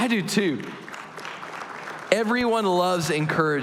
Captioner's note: applause